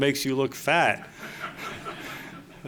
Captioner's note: laughter